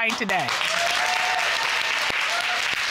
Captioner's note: audience applauding